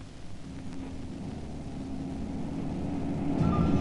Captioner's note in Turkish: kamyon sesi̇